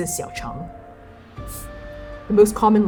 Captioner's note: scoffing